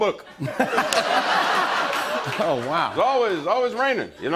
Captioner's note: laughter